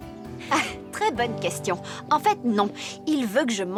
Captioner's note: chuckling